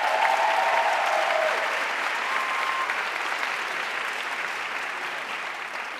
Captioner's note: audience cheering and applauding